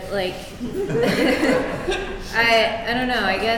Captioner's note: laughing